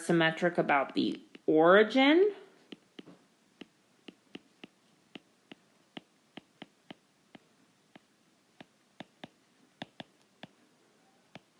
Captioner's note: keyboard Tapping